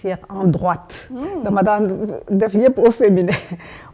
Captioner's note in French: rires